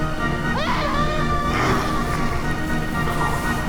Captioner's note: screaming; dramatic music